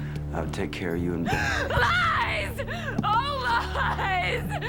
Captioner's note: sobbing